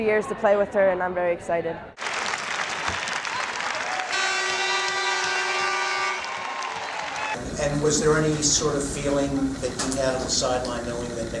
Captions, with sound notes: Three years to play with her, and I'm very excited. [applauding] [buzzer] Was there any sort of feeling that you had on the sideline,